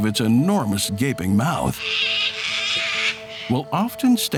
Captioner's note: frogmouth screeches